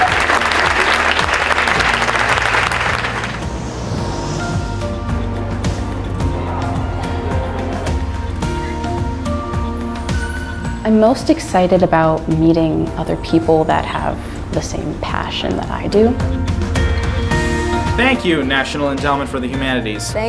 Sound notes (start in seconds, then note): 0.0 applause; 2.4 airplane roaring